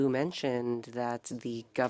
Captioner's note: speaking French